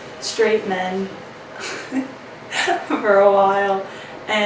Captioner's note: laughs